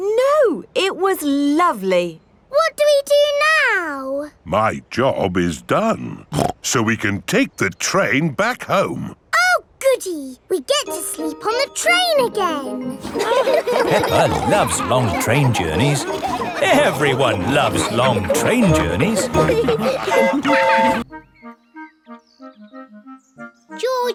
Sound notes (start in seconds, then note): 13.3 laughing; 20.1 train whistle toots